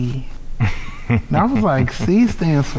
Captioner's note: laughing